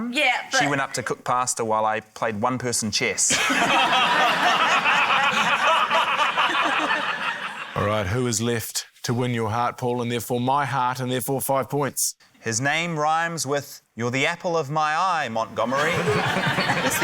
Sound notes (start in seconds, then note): 3.3 laughter